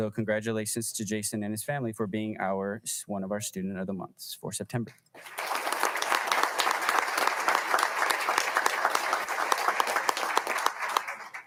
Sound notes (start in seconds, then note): 5.1 audience applauding